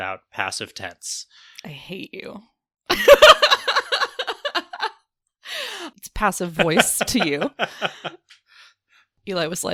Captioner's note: laughs